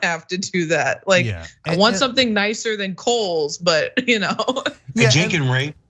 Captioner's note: laugh